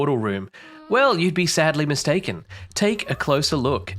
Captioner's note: ghast cries